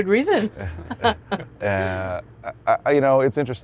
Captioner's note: laughs